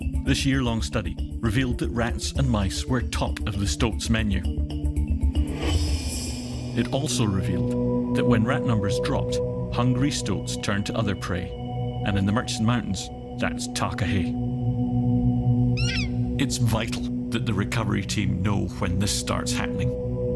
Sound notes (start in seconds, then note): 15.7 takahē vocalises